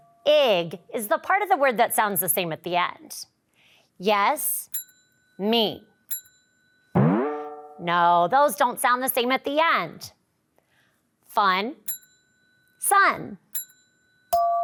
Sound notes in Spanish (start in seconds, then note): 6.9 audio boings; 7.0 tintineo de audio; 13.5 campanillas de audio; 14.4 tintineo de audio